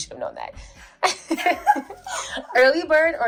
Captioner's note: laughter